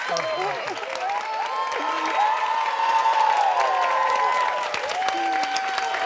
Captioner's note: audience applauding and cheering